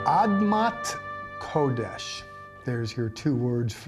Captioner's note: speaking in Hebrew